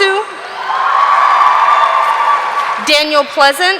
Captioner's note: audience cheering